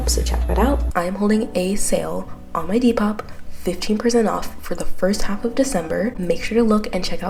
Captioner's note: voiceover